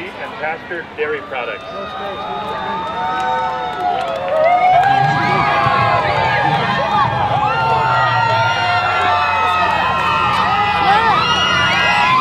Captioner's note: cheering crowd